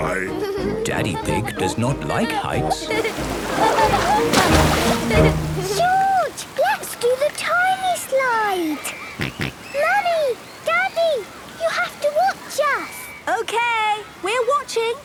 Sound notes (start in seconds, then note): 2.8 laughing; 9.2 George snorts